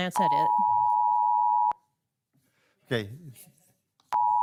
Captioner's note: timer beeps